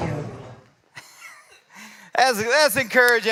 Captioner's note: laughs